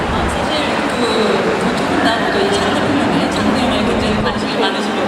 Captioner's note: speaking Korean